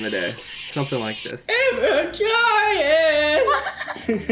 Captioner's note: croaks; both laugh